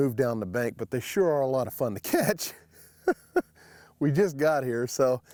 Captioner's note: laughs